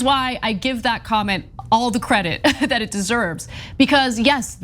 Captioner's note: laugh